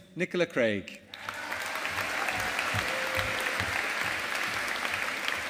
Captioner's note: audience applauding